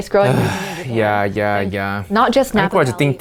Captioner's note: grunts